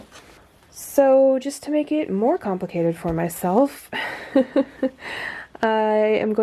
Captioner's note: laughs